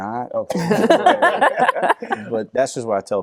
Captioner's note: all laugh